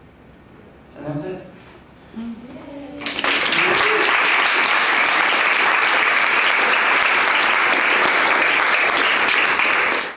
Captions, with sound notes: And that's it. (audience applauds)